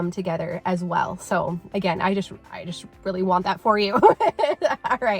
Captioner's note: laughing